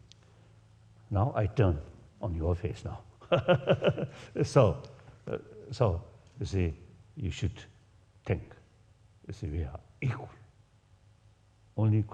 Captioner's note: laugh